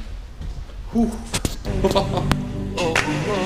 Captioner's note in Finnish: laugh